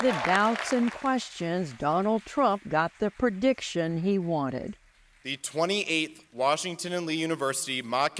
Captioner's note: applause